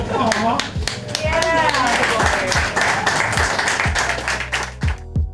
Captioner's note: crowd applause